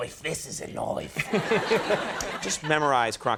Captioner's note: audience laughing